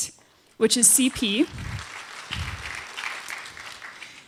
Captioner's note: applause